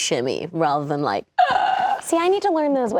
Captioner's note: gasping